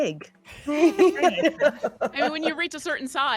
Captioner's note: person laughing